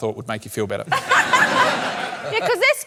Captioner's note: laughter